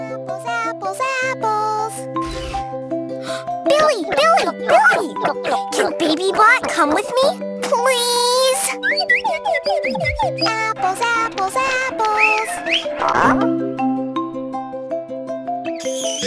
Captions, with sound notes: Apples, apples, apples. Billy, Billy, Billy! Can Baby Bot come with me? Please. Apples, apples, apples. [whistle]